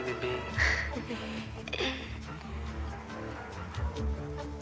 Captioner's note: Marlee chuckles